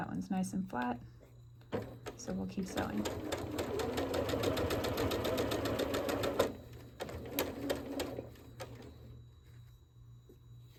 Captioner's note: sewing